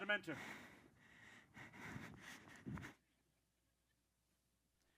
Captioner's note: breathes heavily